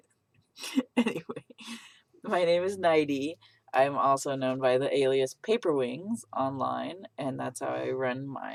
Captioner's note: laughs